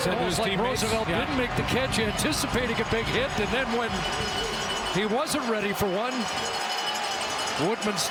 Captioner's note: crowd noise